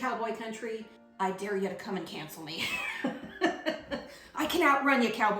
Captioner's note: laughs